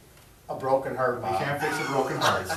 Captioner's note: laughs